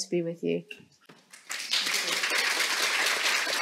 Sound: applause

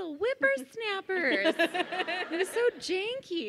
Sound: laughing

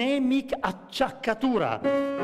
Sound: speaking italian

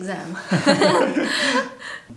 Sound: laughter

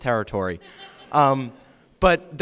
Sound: audience laughing

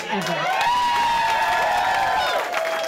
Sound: cheering

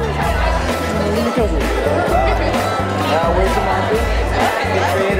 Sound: scattered conversations

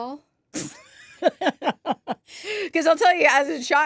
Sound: laughs

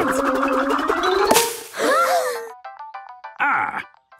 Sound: all gasping

